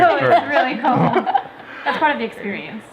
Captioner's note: laughing